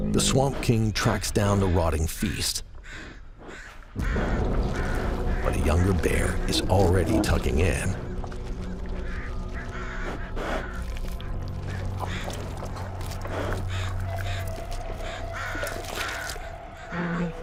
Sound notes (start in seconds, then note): 3.0 birds chirping; 9.8 bear snorts